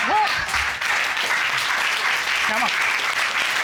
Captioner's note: applause